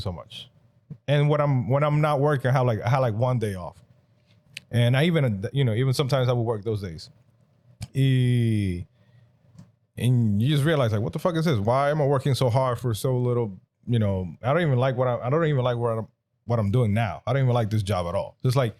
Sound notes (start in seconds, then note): none